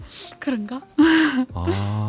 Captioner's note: laughs